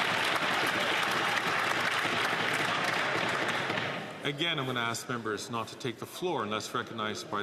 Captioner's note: some Applause